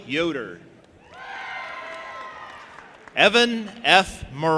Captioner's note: audience applauding and cheering